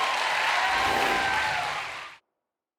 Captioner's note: audience cheering and applauding; screen whooshes